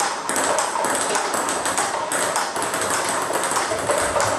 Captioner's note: ball ping pong hitting continues